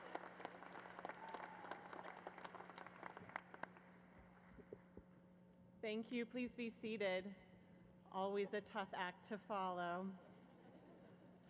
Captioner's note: applause